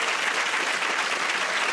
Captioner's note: cheering and applause